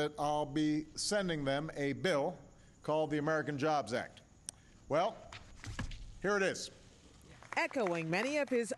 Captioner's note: applause